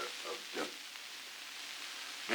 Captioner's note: Murrow, mumbling